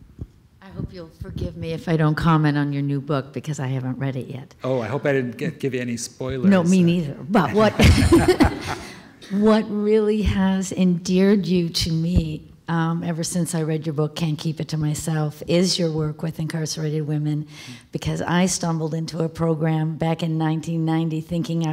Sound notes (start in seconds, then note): 7.4 laughter